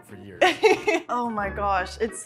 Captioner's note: laughing